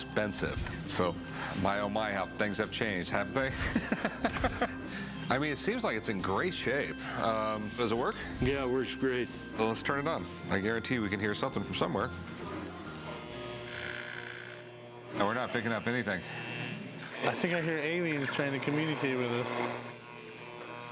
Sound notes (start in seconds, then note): 3.5 laughs; 12.4 buzzing